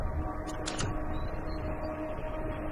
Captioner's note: door clicks